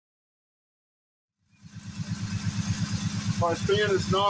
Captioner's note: engine idling